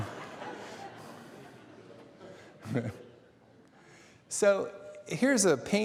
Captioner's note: laughter